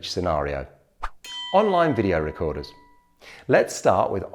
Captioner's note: bell dings